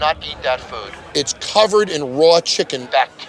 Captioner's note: on phone